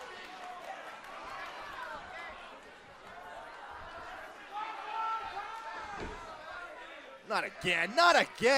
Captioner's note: crowd chatter